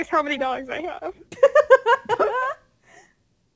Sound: laughs

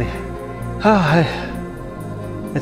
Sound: sigh

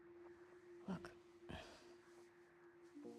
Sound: sigh

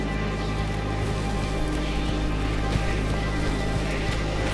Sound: footsteps

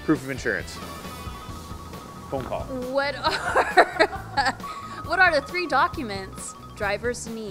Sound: phone rings in the background

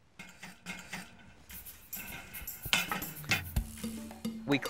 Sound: brush scraping

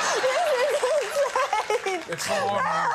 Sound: crying

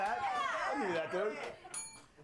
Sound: bell rings

